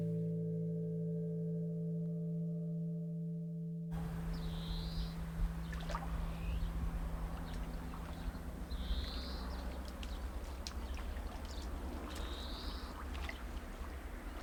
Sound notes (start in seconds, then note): 0.2 gentle music; 3.9 birds chirping